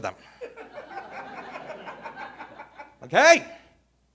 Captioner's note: audience laughing